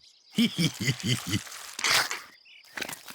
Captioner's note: laughs